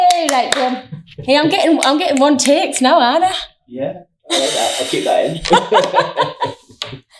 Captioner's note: laughing